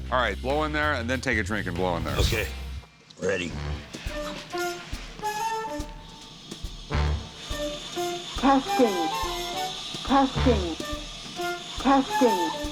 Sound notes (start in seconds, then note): 6.8 blowing